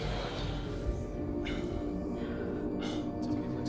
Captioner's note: breathing heavily